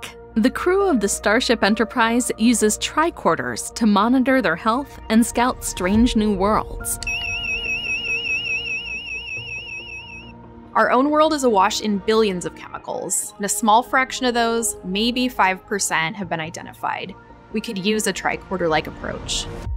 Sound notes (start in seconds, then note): 6.9 high-pitch pulsing